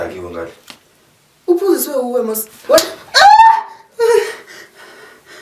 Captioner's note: smack